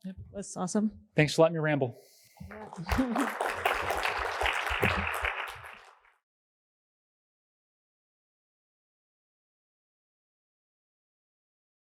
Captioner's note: applause